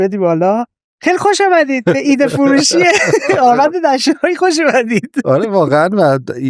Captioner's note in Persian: خنده